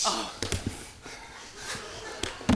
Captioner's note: thud